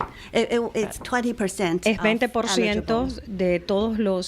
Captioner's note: Hablando ingl\s